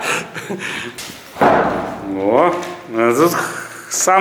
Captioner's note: door closes again